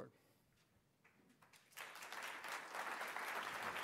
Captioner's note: applause